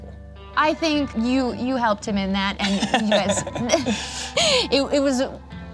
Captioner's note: laughs